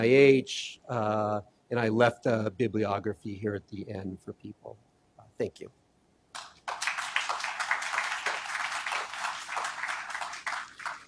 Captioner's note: applause